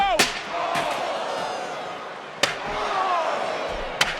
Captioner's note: crowd gasps